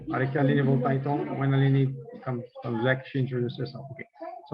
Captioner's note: non-english speech